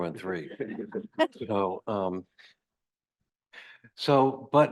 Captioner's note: group laughing